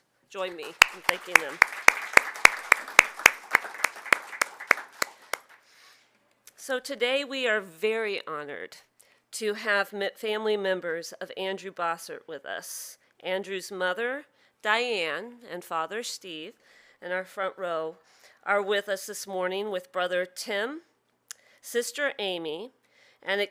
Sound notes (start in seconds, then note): 2.2 audience clapping